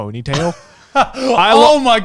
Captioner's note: laughing